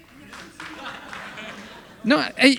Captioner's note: audience laughing